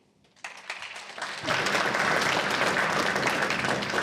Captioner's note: applause